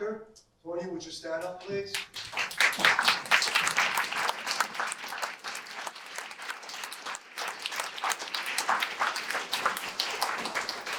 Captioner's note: applause